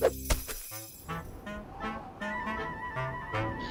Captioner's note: wind whistles